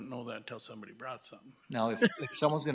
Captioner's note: laughs